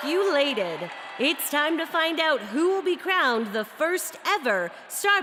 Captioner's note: cheers and applause